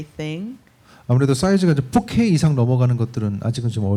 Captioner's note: speaking korean